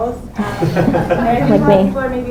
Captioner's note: laughter